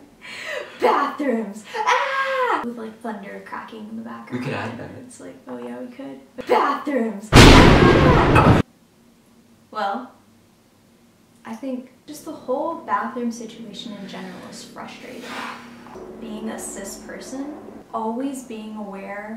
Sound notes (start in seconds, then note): 0.0 laughing; 1.7 yelling; 7.3 thunder cracking; 15.0 sighs